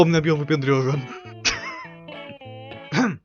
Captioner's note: wheeze